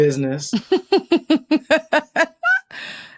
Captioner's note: laughs